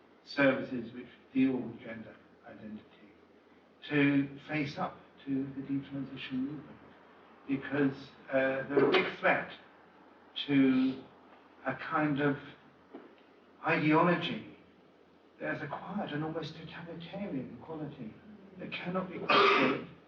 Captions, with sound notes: services - which deal with gender identity, to face up to the de-transition movement because uh, they're a big threat to a kind of... ideology, there's a quiet and almost totalitarian quality that cannot be questioned *audience cough*